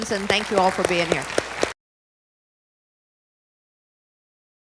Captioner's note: audience applauding